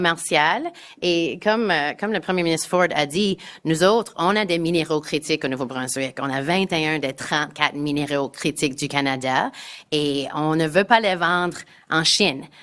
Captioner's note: speaking in French